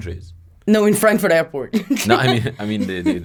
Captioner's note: laughs